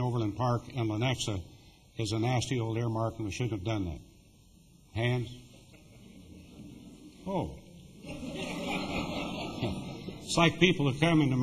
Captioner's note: laughter